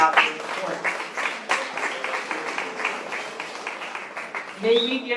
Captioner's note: applause